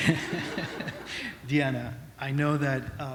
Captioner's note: laughter